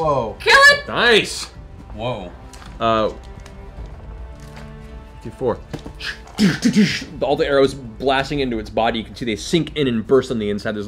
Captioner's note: impact sounds